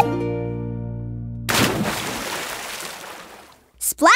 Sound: splash

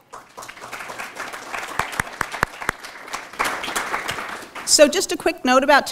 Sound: applause

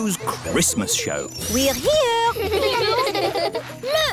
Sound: children giggling

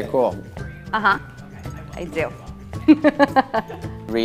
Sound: laughs

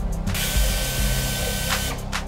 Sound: air-powered drill

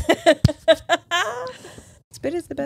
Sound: imitates spitting sound; both laugh

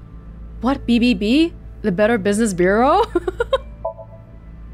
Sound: chuckles

